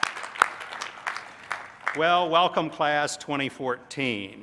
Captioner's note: applause